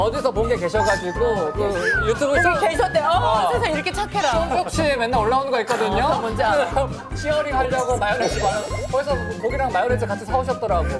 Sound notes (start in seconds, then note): 4.2 almost crying; 5.7 laughs